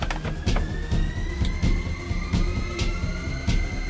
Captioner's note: clicking sound, loading antidote to syringe